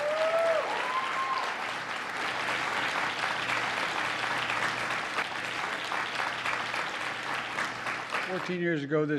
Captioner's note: applause